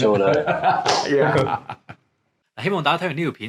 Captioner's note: laughter